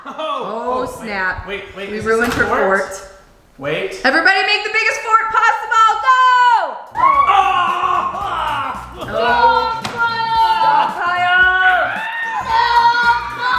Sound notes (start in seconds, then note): 7.3 yells